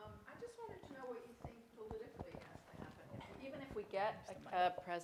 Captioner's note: off mic